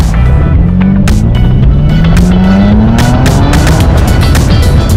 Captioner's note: car engine revving